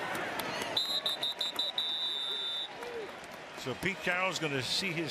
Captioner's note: whistle